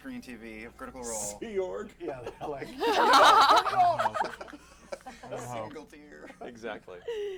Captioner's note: laughter